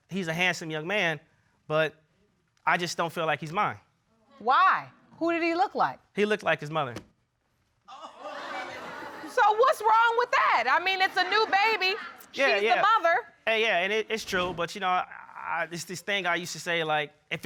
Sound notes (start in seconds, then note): 7.9 audience laughing